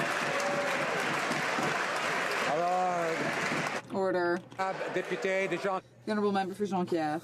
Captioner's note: some Applause